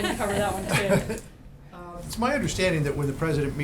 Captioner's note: laughter